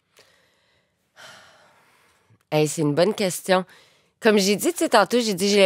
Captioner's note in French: soupir